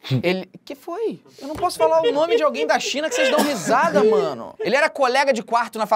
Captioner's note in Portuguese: risadas